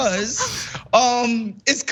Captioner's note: laugh